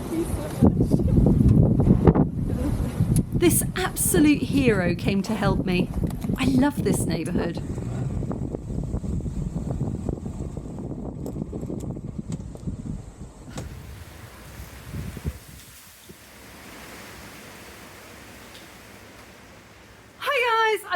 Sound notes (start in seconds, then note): 1.7 laughing; 8.5 wind blowing loudly; 13.6 wind rustling the trees